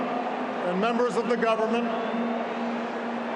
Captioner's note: applause